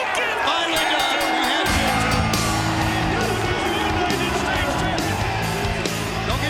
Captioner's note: bell rings